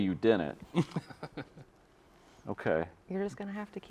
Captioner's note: chuckles